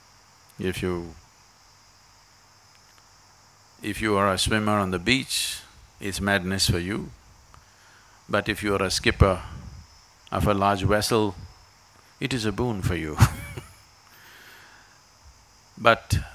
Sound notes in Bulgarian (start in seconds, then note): 13.1 Смее се